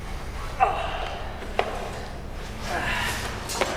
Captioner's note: groans